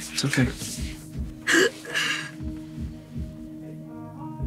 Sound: upbeat music; Astrid sobs

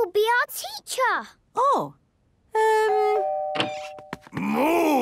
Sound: doorbell ringing

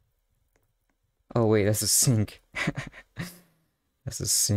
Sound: chuckles

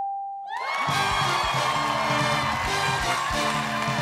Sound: cheers and applause

